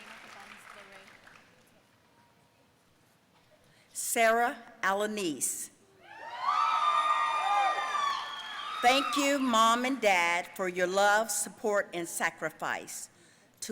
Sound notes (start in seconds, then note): 6.1 audience cheering